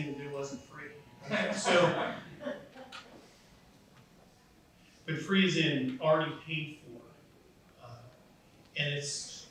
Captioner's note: laughs